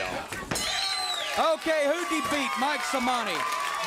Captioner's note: bell ringing; crowd cheering